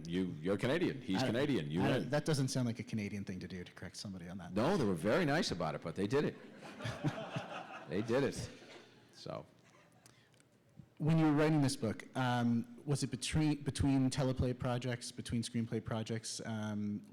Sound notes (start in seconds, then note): 6.3 laughter